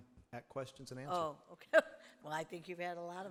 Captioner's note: laughs